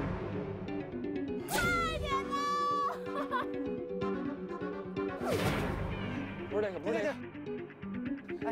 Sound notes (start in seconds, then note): 2.2 shouting from teammates